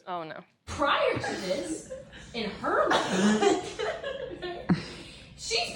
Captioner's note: laughing